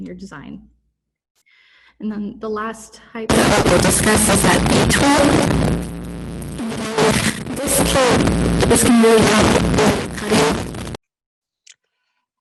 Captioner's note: static noise